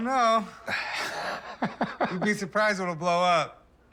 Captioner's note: laughs